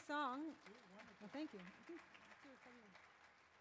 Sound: audience claps

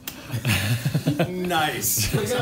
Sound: laughter

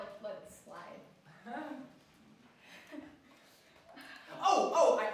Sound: nervous chuckling

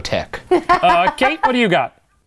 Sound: laughs

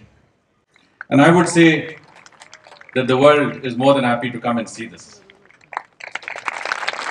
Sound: applause

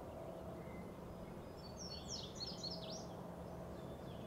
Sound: birds and wind noise

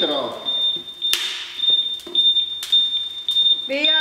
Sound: alarm continues beeping

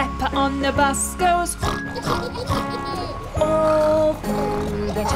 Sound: singing; snort; snort

